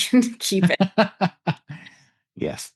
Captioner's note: laughs